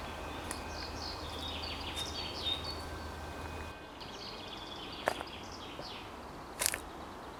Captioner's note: birds chirp; slow music